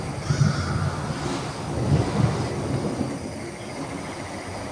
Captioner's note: thunder rumbling